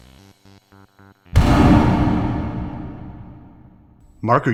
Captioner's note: loud bang